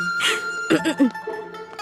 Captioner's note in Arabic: سعال